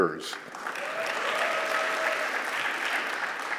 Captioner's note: applause